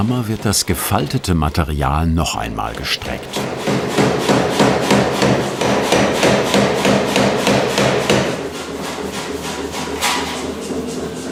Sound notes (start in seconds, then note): 3.2 knocking